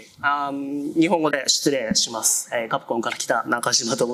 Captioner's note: speaking japanese